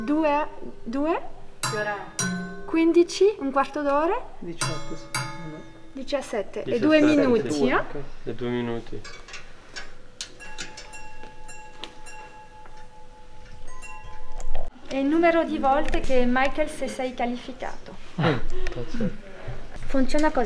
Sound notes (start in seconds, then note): 1.6 2 chimes